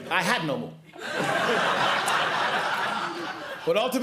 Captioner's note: laughter